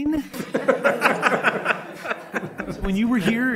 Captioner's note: laughing